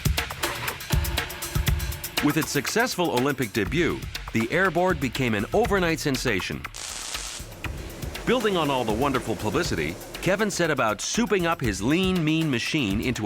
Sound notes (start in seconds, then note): 0.2 upbeat music; 6.6 solder cracking